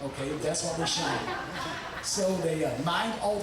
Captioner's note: audience laughing